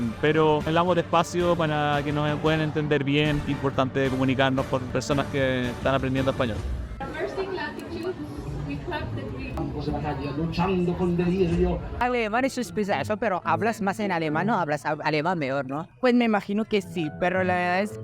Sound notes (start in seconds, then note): 6.6 poem recitations in Spanish